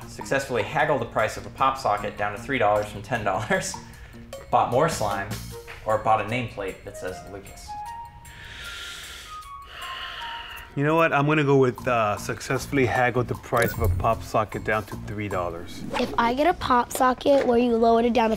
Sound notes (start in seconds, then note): 3.5 chuckles; 9.6 sighs